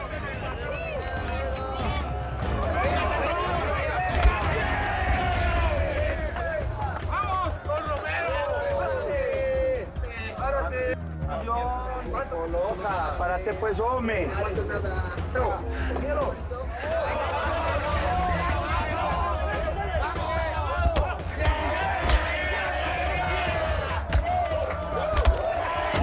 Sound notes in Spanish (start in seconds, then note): 4.6 Golpes; 5.7 Gritan al unísono; 14.5 Comentan al unísono; 17.4 Gritan al unísono; 20.9 Golpes